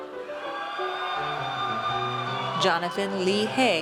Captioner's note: audience cheers